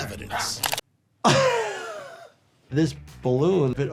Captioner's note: laughing